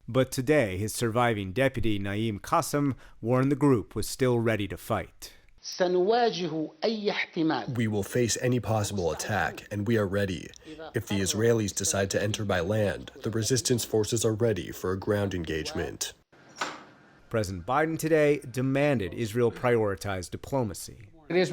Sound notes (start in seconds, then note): 8.2 through translator